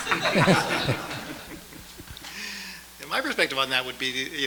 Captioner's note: audience laughs